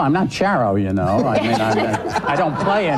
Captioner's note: laughing